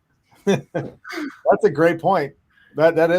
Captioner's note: panelists laugh